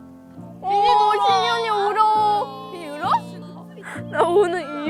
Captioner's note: is crying instead